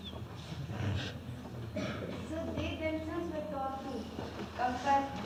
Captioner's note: laughs